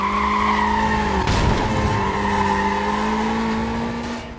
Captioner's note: car crying